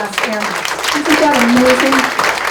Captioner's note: audience claps